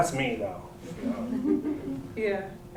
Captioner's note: laughter